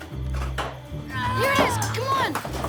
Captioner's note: groaning